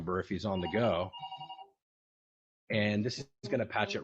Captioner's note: phone ringing